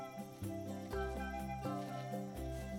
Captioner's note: leaves rustling